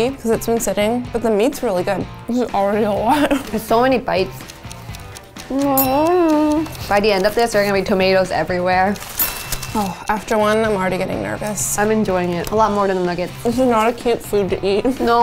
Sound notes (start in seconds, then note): 5.7 bell ringing; 9.0 bell ringing